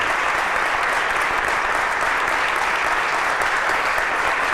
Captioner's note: applause